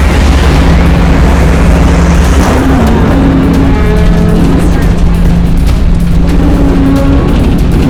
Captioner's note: thunder